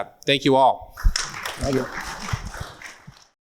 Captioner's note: audience claps